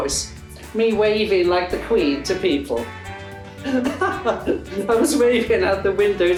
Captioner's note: laughs